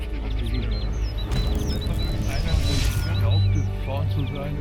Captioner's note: hunters chattering